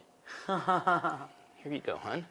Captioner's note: laughing